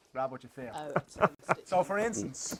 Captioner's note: laughs